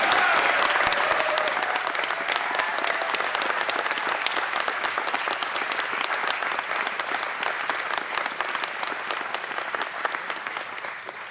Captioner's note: applause